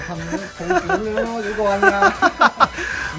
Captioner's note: reverse squinty-eyed laugh